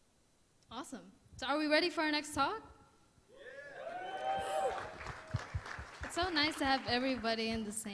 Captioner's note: applause